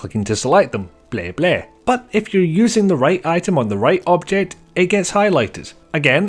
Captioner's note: blegh blegh